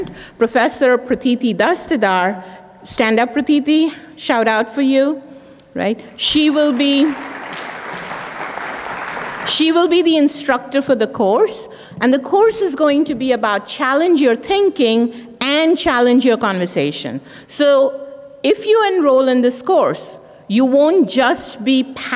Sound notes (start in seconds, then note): 6.4 audience clapping